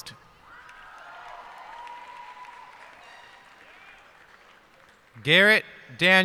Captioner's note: cheers and applause